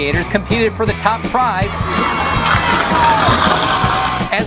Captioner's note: gurneys going fast